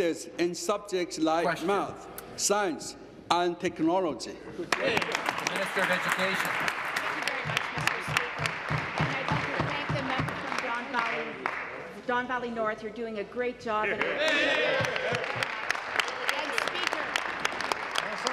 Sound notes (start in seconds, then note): 7.7 applause; 16.8 applause